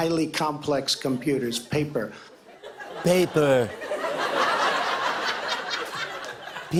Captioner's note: Imitates Trump; laughter